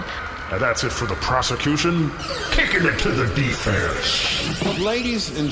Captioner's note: laser sound effect, reverb